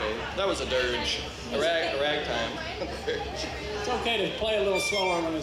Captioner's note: laughs